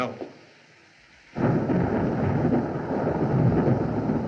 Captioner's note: thunderclaps Continue